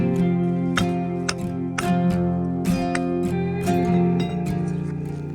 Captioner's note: knocking bricks